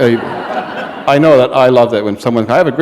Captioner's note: laughter